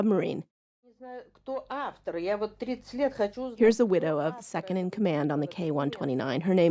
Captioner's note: speaking Russian